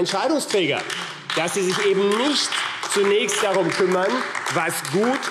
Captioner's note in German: Beifall AfD